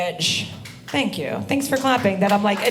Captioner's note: audience applauding